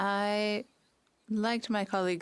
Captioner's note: speaking French